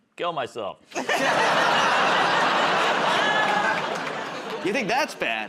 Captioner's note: laughter